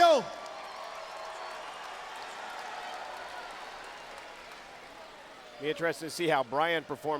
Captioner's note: crowed chatter